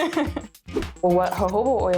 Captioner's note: laughing